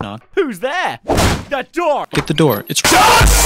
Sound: slam

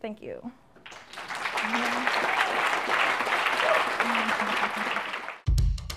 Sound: applause

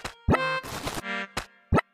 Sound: footsteps

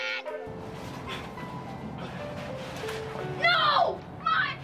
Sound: child's voice; sounds of struggle

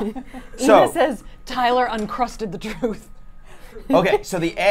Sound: laughs

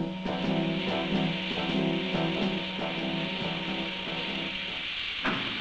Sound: sound of grain pouring; sound of lid closing

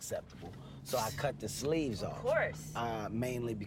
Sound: scoffs

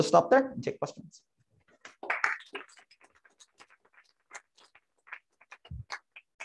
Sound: applause

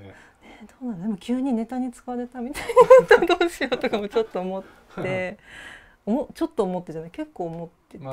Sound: laugh

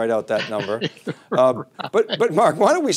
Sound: laughing

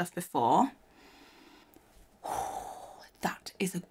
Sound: inhales and exhales

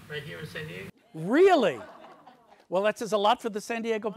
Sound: audience laughs

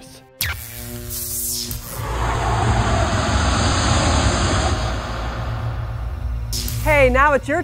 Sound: sound Effects

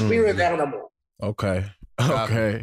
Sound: chuckles

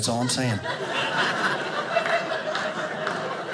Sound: audience laughing

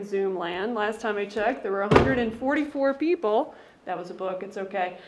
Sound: thud

